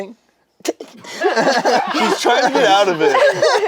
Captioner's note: group laughs